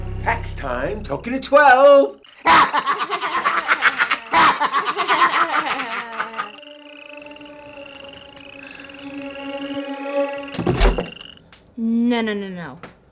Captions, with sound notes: Tax time. Token at twelve! (sinister cackle) No, no no no-